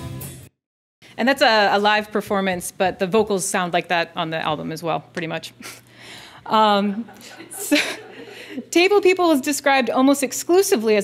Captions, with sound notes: And that's a live performance, but the vocals sound like that on the album as well pretty much. (laughing) Table People is described almost exclusively